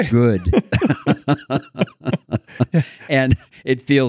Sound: laughing

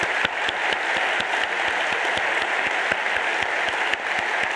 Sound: audience applauding

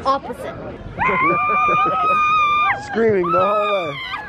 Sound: screaming

